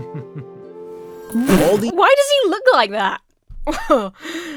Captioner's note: man laughs confidently; splutters; laughs self-confidently